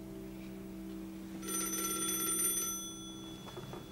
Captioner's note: telephone rings